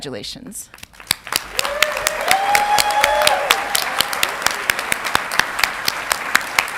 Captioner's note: audience clapping and cheering